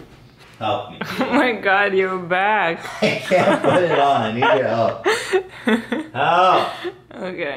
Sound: laughing

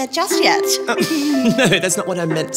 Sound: both giggling

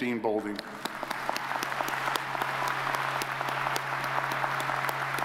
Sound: audience applauds

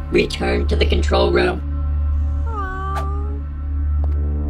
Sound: meow sounds offscreen

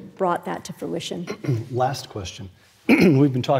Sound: cough

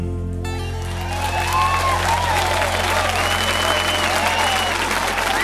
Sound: audience cheering and applauding

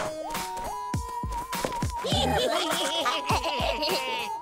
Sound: laughing

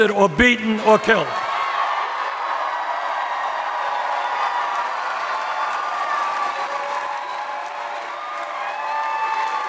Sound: applause

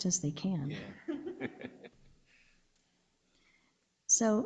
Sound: laughing

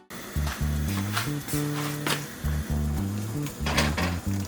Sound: boiling…

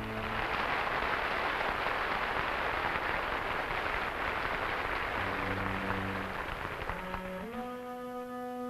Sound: theme music; applause; thoughtful music

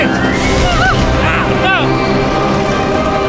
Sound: screams

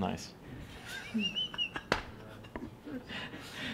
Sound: laughing

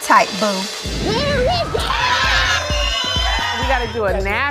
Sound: muffled screaming

